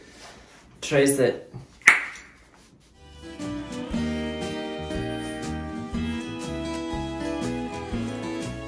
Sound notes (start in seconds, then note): 1.8 tongue pop